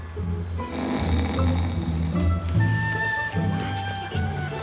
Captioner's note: snoring